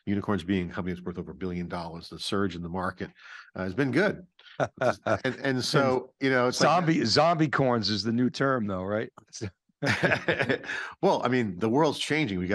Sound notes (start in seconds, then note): 4.6 chuckling; 9.8 chuckles